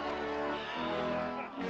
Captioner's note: huffing